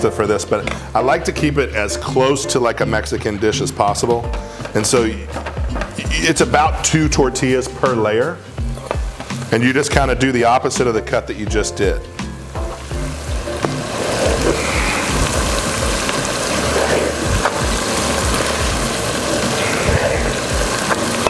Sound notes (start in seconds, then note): 14.3 relaxing music; 16.0 sizzling